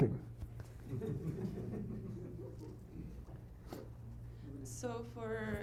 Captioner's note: laughter